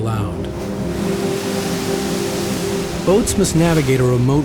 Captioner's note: splashing